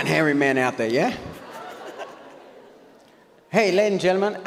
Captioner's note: audience laughs